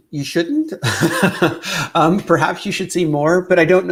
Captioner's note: laughs